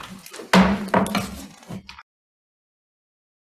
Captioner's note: gavel thuds